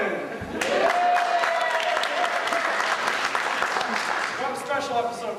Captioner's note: cheers and applause